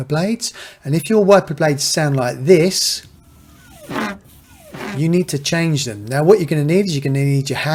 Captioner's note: scraping sound